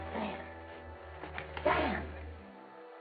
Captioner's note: slapping